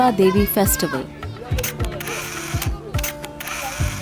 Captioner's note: camera shutters